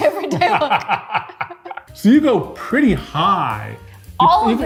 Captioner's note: laughs